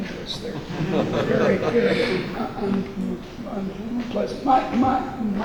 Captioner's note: laughing drowns out speaker